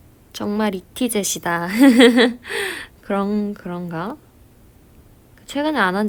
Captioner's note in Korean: 웃음